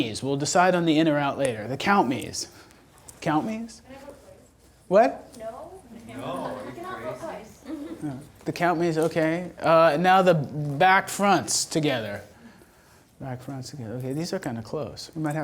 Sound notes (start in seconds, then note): 4.2 voiceover